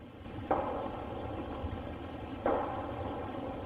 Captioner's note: banging